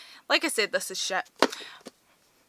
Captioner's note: bang